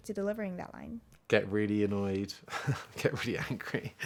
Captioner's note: laughing